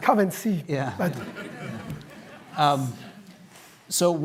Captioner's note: laughter